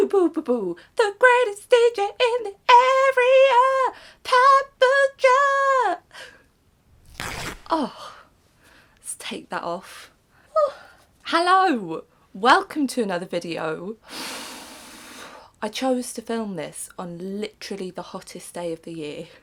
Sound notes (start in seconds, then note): 6.9 ripping noise; 14.1 exhales